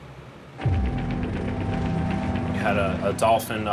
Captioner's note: helicopter blades thumping